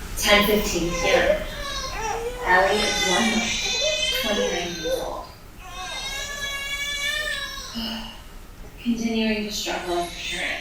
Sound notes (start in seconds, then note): 5.6 baby crying